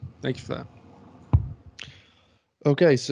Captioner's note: mic thumps